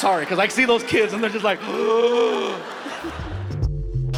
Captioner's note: imitates gasping; Gabriel laughs; mellow music